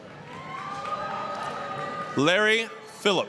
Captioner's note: applause, cheering